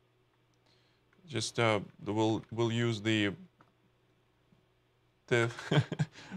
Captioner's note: laughs